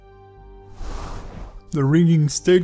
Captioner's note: air whooshes